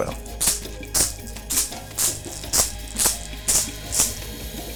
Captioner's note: shells rattle